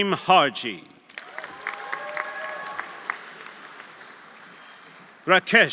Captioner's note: audience applauding; audience cheering